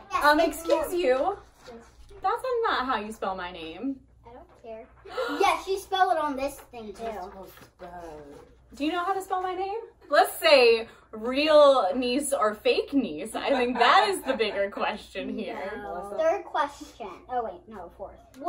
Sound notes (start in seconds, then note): 5.0 gasps